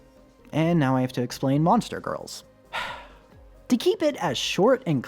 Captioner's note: sigh